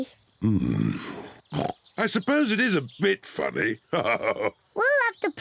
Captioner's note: oinks; chuckles